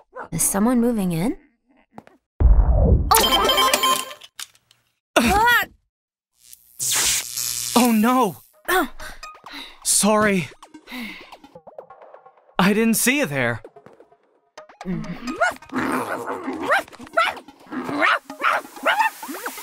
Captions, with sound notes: Is someone moving in? OHF Oh [buzzing] Oh no! Sorry! I didn't see you there! [angry barking]